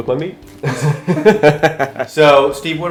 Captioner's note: both laughing